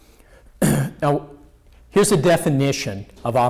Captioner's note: clears throat